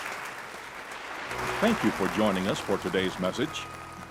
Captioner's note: voice-over